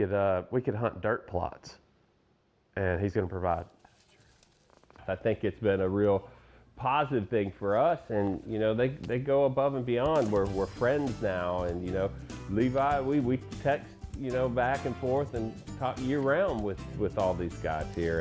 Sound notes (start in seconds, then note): 8.8 hands slap; 9.7 upbeat music plays